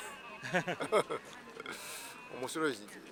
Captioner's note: laughs